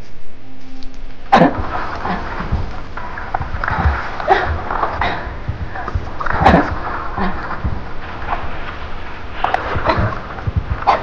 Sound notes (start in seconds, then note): 1.3 water, splashing, choking